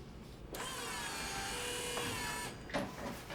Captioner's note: whirring